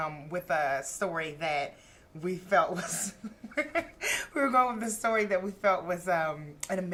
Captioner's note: laughter